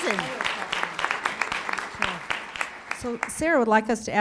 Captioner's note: applause